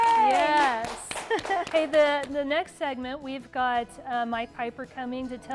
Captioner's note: applause